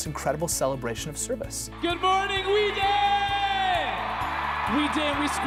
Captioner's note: cheering